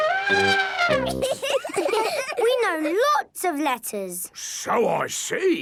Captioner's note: trumpets; laughing